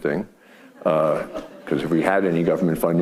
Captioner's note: audience laughing